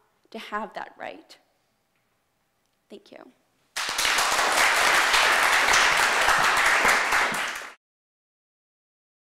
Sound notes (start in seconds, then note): 3.7 applause